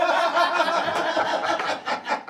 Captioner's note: all laughing